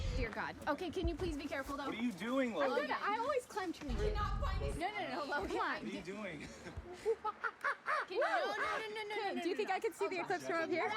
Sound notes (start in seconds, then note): 6.9 monkey sounds